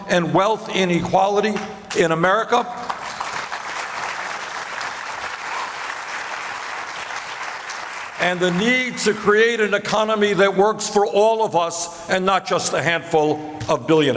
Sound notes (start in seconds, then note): 5.5 applause